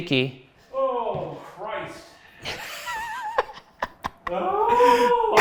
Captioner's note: laughing